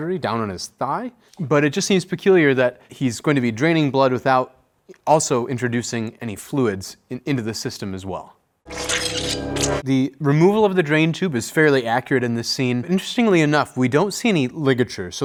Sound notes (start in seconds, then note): 8.6 blood spurting; 8.7 dramatic music